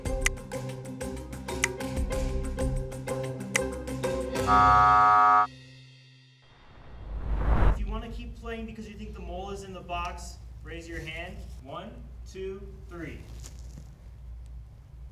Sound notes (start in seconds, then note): 0.2 click; 4.4 buzzer sounds